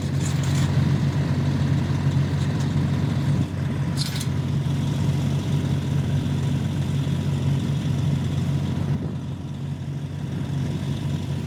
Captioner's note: engine noise